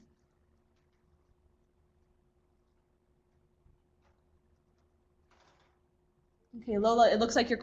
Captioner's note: no sound - waiting for questions